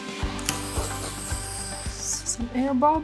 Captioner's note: blower blows